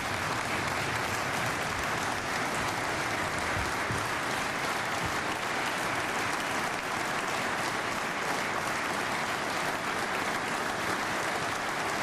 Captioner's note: applause